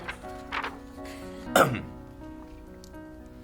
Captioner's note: clears throat